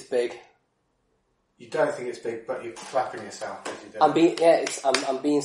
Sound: clapping hands

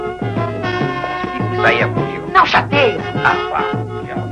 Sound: arguing

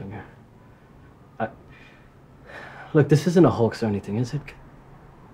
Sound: sighs

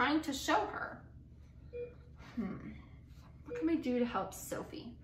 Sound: beeping

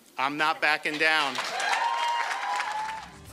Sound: cheering and applause

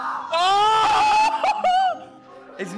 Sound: laughing

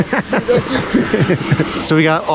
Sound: laughing

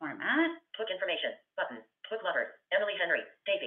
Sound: VoiceOver voice

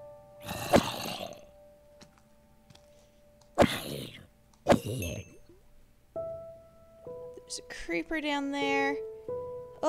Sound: zombie groans

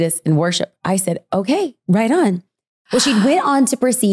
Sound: gasp

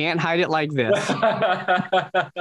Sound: Corbin laughs

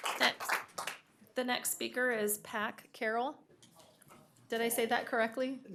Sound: applause

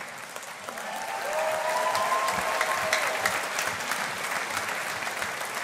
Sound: audience applauding

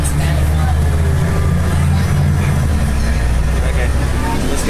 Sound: bus Noises

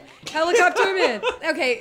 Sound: laughing

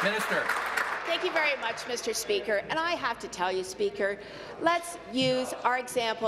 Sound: applause

